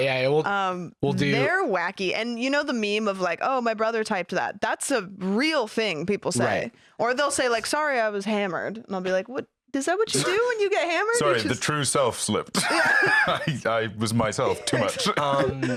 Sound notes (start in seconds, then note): 12.3 laughs